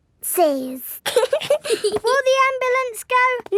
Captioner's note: both giggling